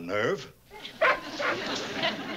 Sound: barks

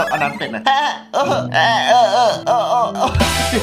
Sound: laughs

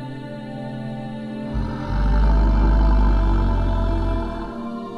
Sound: growling

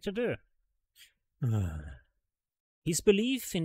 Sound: sighs

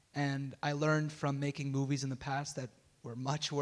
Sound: none

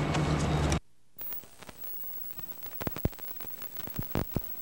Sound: static, audio out

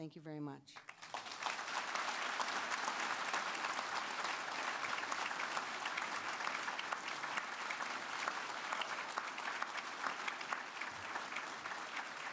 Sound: applause

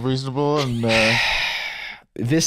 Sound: sighs

